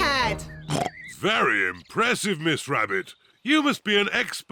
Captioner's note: oinks